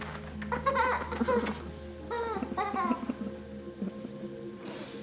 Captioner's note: Jack and Alex laughing